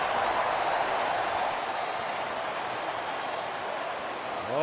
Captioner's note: cheering